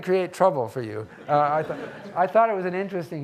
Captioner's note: audience laughing